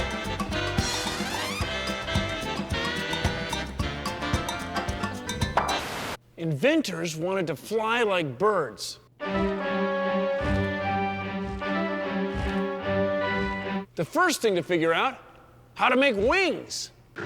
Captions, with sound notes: [ POP! ] INVENTORS WANTED TO FLY LIKE BIRDS. [ CLASSICAL MUSIC PLAYS ] THE FIRST THING TO FIGURE OUT -- HOW TO MAKE WINGS.